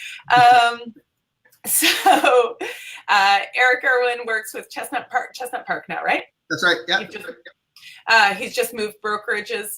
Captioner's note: laughing